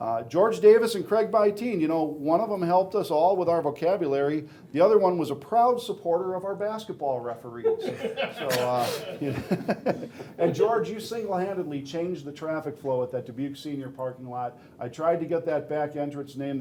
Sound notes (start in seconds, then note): 7.6 laughing